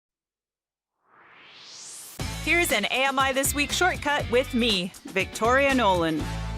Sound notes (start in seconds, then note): 1.0 swoosh